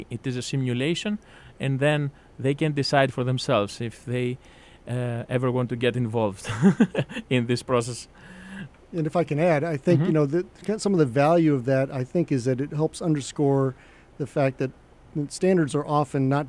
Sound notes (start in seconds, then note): 6.5 laughs